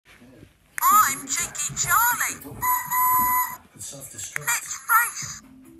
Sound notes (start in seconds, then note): 2.6 whistle blows